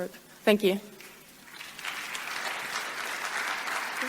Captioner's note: audience claps